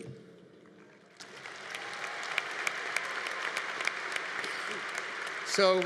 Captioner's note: audience applauding